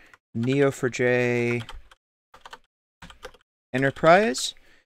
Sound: keyboard typing

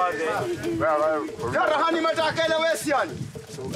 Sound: Portuguese spoken audio

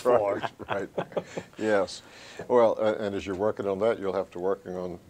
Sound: all chuckle

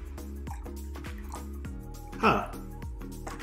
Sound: water trickling; gentle music

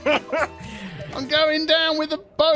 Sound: laughter

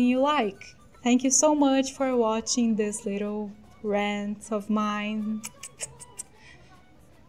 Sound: kiss noises

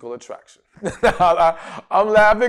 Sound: laughs

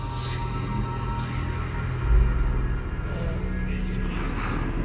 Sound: ghostly whispering

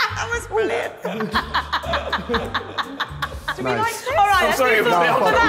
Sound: Sidemen laughing; women laughing

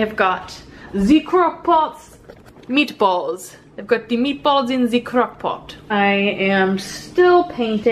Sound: silly accent

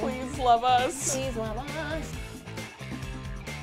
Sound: singsong; upbeat Music

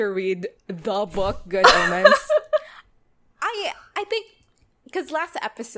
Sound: laughs

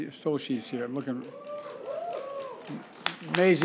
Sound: applause

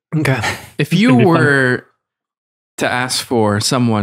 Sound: Father Innocent laughs

